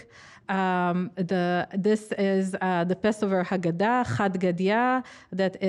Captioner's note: speaking foreign language